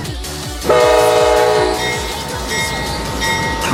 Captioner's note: honk